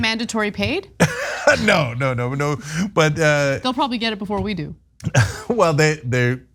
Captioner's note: laugh